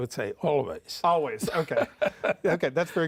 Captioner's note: laughs